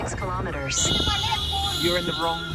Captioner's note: car horn